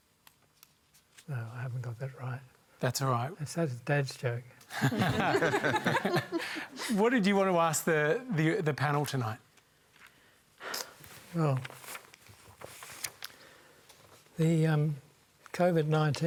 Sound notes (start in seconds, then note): 4.7 laughter